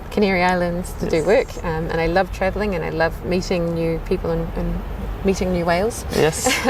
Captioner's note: risas